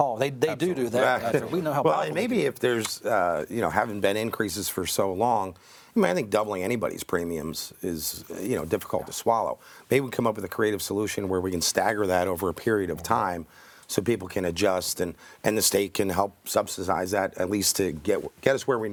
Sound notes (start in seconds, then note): 2.7 group chattering